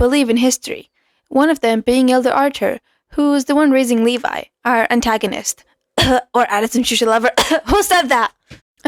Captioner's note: cough